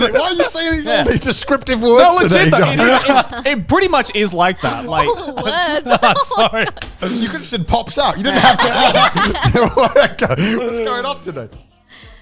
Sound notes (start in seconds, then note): 7.2 laughing; 9.6 everyone laughing